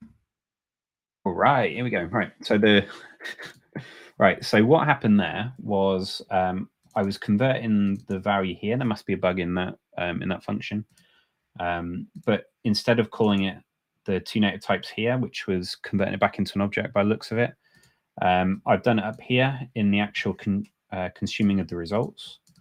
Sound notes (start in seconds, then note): 2.7 chuckles